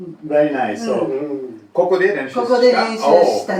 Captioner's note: Japanese language 00:14:24